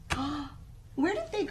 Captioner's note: gasps